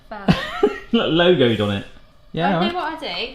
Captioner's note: laughs